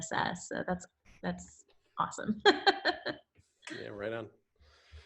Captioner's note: laughs